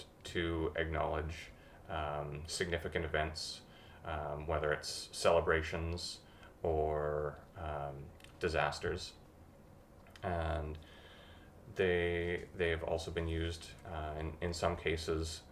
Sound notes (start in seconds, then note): none